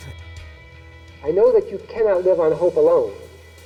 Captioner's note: Audio recording of Harvey Milk playing